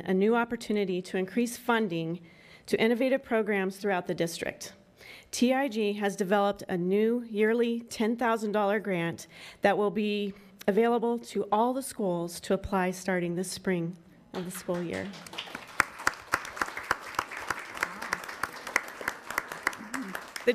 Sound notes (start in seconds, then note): 14.4 attendants clapping